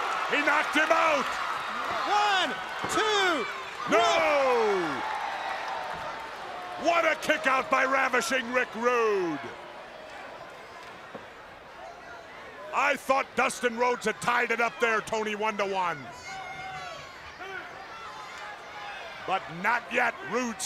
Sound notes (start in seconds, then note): 4.6 crowd cheering